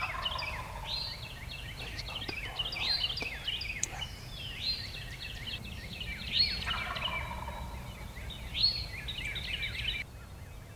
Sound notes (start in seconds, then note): 0.0 turkey gobbles; 2.3 whispering; 6.6 turkey gobbles